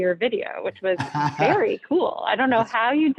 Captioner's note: laughs